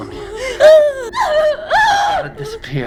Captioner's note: Sarah whimpering